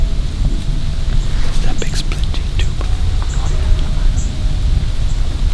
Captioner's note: wind in leaves; whispered voices